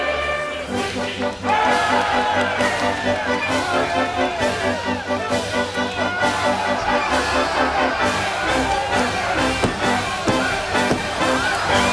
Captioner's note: all cheering